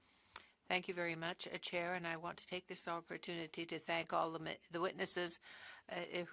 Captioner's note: speaking French